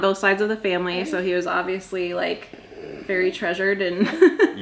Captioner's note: giggles